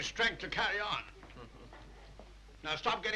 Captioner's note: Philip chuckles